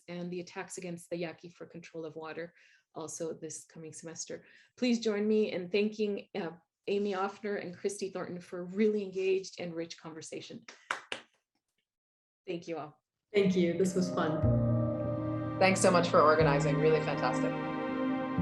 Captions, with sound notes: and the attacks against the Yaqui for control of water also this coming semester. Please join me in thanking Amy Offner and Christy Thornton for a really engaged and rich conversation. (hands clapping) Thank you all. - Thank you, this was fun. (gentle music) - Thanks so much for organizing, really fantastic.